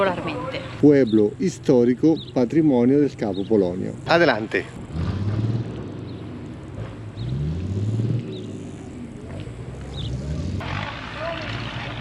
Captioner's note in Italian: Applauso